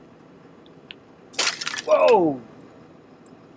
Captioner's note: ice smashes